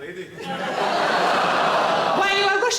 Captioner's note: audience laughing